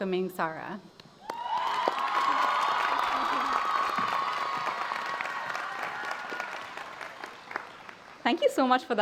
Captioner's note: applause